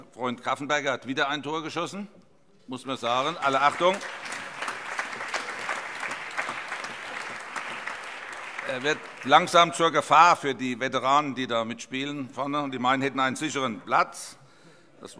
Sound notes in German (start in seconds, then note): 3.2 Beifall